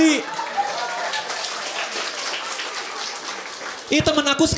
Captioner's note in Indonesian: tepuk tangan para penonton